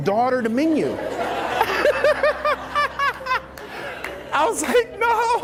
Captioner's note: laughs